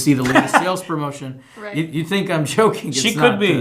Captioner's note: laughter